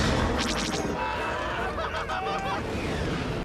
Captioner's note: screeeeeeaming